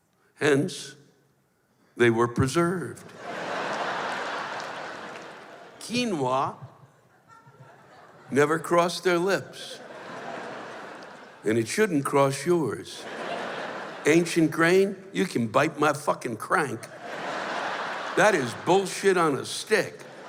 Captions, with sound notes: Hence, they were preserved. [laughter] Quinoa... never crossed their lips. And it shouldn't cross yours. [laughter] Ancient grain? You can bite my fuckin' crank. [laughter] That is bullshit on a stick.